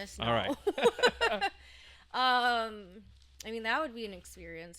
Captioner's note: laughing